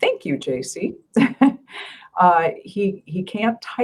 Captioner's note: chuckling